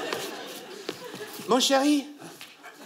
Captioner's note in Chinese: 法国口音